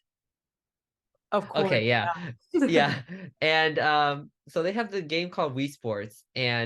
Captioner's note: laughs